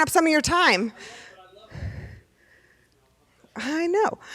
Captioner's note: person speaking off mic